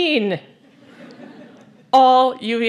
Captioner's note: laughter